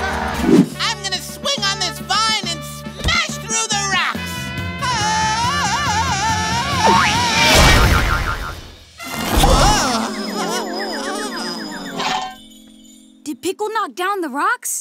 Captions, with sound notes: I'm gonna swing on this vine and smash through the rocks! [yelling] [groaning] Did Pickle knock down the rocks?